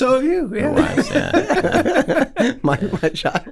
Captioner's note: laughing